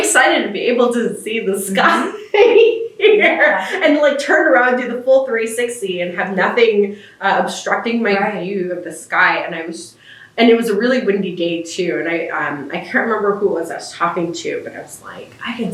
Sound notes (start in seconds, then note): 1.6 laughs